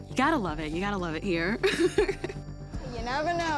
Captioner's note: laughs